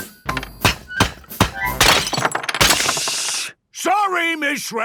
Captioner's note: banging, crashing